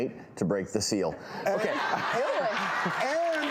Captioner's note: audience laughing and clapping